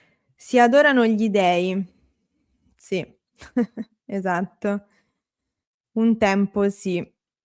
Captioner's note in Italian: risate